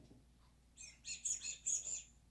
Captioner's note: squeak